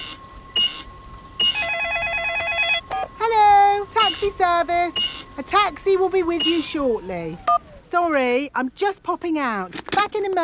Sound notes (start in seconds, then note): 0.4 cash register beeping; 1.3 beeps; 1.4 cellphone ringing